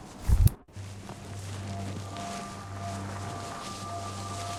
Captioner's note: dragging sound